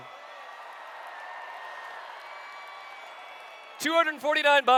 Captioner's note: cheers